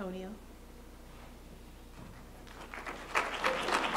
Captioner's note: applause